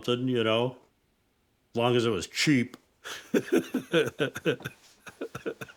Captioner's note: laughs